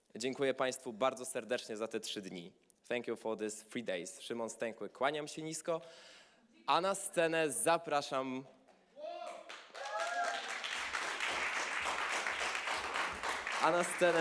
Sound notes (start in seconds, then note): 3.9 speaking polish; 9.2 applause